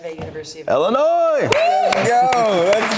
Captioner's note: cheering